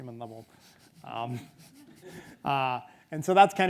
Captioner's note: audience chuckles; chuckles